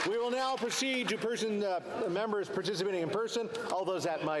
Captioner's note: cheering and Applause